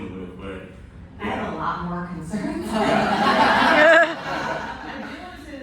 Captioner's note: laughter